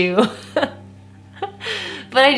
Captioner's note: laughs